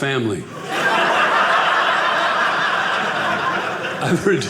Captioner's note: audience laughing